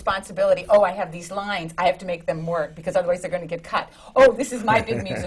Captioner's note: laughs